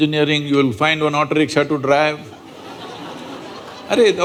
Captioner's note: laughter